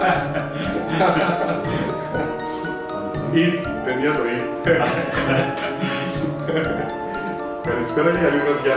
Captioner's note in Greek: γέλια